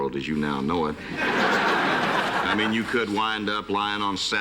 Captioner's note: laughter